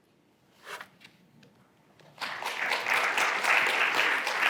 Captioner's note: applause